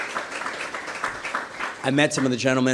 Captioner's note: applause